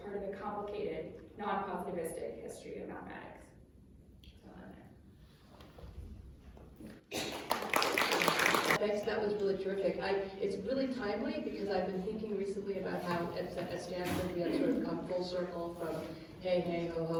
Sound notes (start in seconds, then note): 7.1 applause